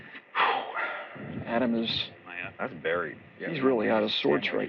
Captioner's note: sighs